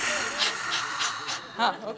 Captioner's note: humorous Panting